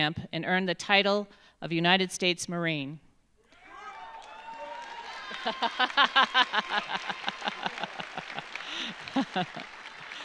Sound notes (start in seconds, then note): 3.5 audience cheering; 3.5 audience applauding